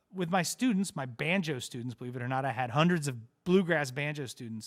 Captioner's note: none